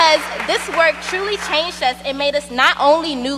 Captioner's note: cheers and applause